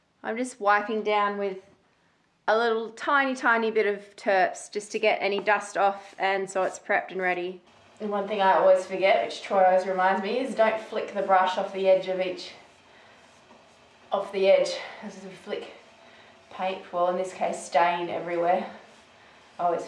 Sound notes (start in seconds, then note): none